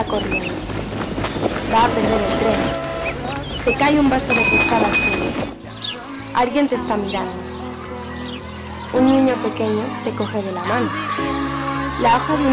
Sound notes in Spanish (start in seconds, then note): 0.0 ruido pasos; 3.5 ruido tren; 4.2 ruido vaso; 10.9 ruido parque de niños